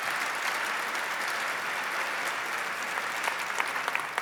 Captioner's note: applause